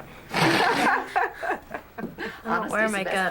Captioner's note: everyone chuckling